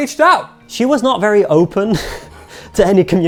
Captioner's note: chuckles